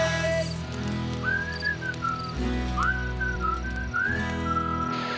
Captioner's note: whistling